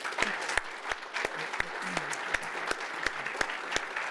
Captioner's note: applause